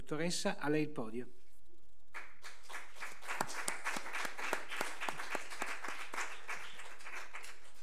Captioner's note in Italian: Applauso